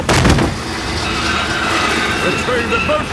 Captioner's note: thud